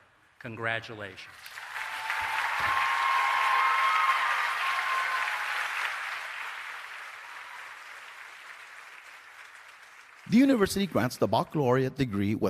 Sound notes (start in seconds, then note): 1.2 applause